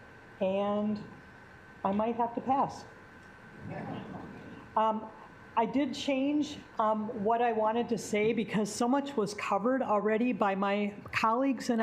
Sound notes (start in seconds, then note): 3.3 assembly laughing